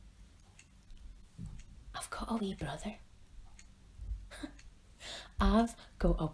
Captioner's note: whispers